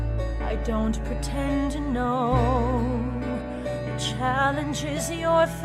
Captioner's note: none